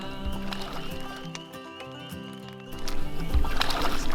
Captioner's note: water splashing